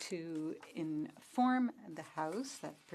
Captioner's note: speaking French